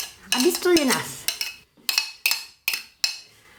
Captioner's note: speaking patois